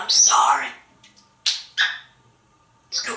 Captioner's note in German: smooches